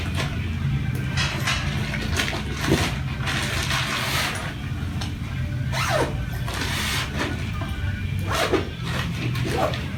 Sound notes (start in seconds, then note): 6.0 zipper closes